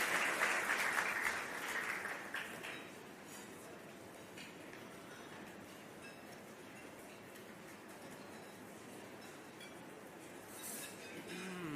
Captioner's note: applause